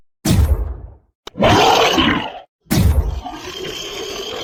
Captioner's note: monster Roar